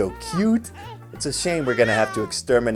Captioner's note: baby crying